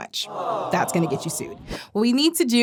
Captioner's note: audience groaning